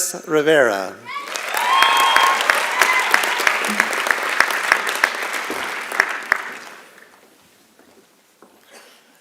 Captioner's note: applause and Cheering